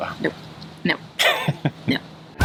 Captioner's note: laughs